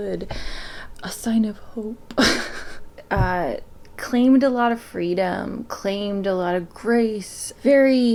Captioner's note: laughs